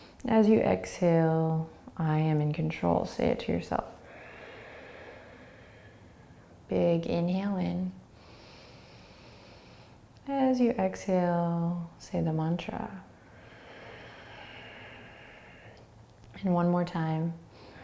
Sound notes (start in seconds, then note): 4.0 exhaling; 8.2 inhaling; 13.2 exhaling; 17.5 inhaling and exhaling